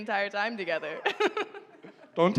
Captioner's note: giggles